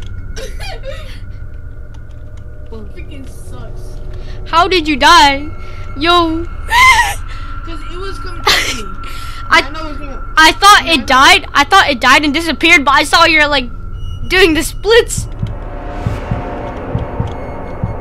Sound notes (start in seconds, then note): 0.4 laughs; 6.1 scared laughing; 8.4 laughs